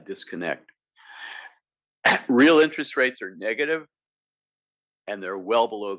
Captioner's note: cough